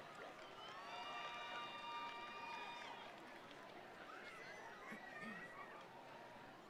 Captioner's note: attendees applauding; attendees cheering